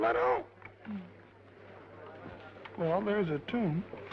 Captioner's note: attendees chattering